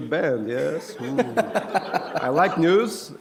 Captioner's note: laughter